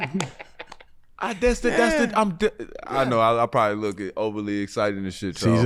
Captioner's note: fumbles